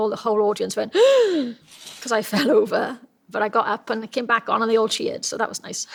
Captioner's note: gasps